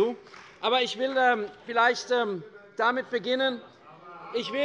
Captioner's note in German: Beifall bei der CDU - Zurufe von der SPD und der FDP